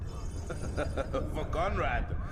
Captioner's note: laughs